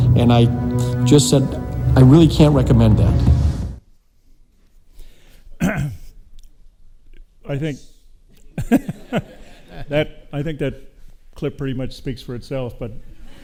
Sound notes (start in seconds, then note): 8.5 chuckles